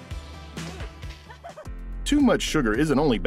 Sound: person laughing

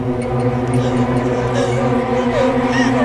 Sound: scared breathing

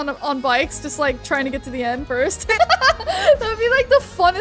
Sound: laughing

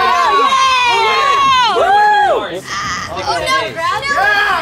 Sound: cheers

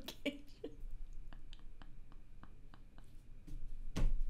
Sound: laughing

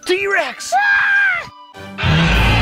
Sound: screams; dinosaur roars

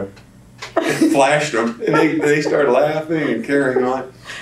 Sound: laughter

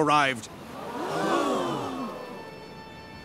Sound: gasping

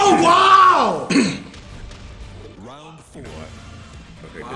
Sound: cough

